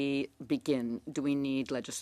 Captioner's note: speaking French